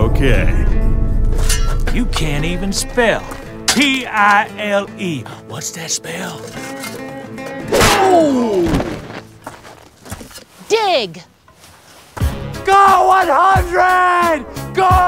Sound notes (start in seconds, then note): 1.9 twang; 6.5 clang